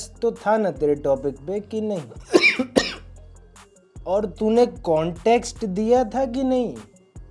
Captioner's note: coughing sound